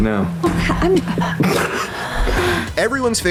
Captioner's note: chuckles